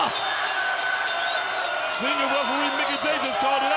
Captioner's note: bell ringing